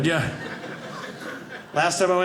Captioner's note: audience laughing